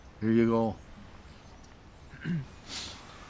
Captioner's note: clears throat